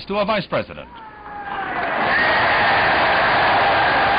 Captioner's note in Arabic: الحشود تهتف